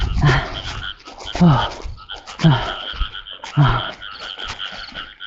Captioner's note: panting